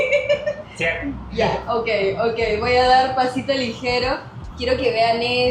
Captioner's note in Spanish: risas